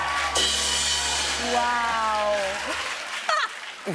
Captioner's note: sad tuba plays, cymbal crash; laughs